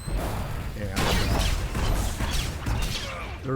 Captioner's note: gun fires